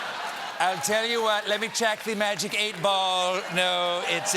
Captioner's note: laughter